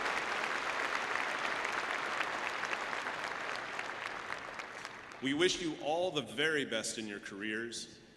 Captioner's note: applause